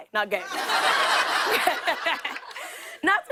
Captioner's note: laughter